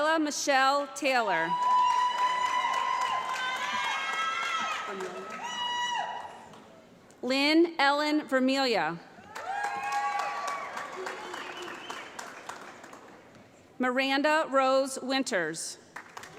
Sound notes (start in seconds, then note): 1.5 applause; 9.2 applause